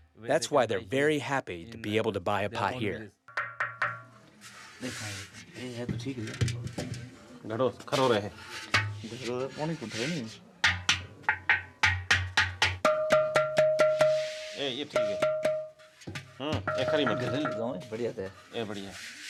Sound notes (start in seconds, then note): 6.4 non-english speech